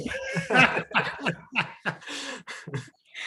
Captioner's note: laughing